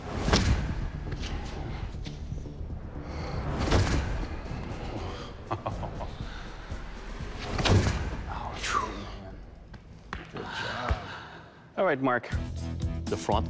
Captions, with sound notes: Ooh. [laughs] [exhales] Good job. All right, Mark. The front is sharp.